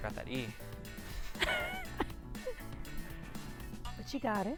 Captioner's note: laughing